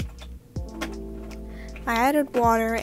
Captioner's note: clattering